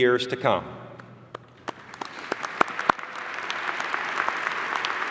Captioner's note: applause